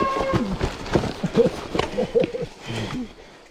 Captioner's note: laughter